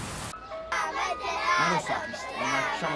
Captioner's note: kids chatting